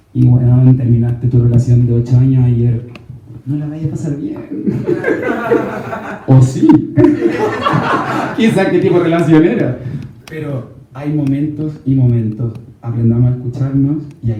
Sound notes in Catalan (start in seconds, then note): 4.6 rialles